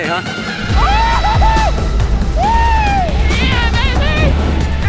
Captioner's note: man whooping